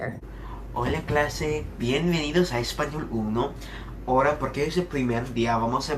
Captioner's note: teacher speaking in Spanish